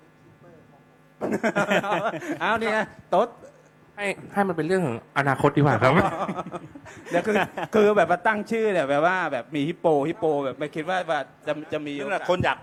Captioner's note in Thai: เสียงหัวเราะ